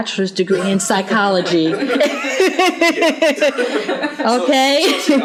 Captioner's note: laughter